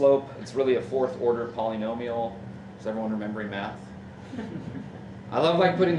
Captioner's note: audience chuckles